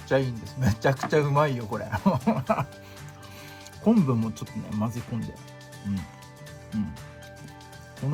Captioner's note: laughs